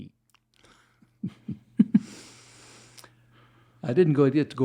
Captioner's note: laughs